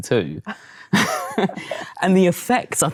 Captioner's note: laughs